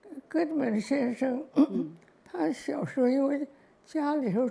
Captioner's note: Mandarin